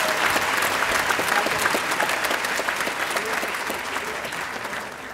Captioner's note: audience applauding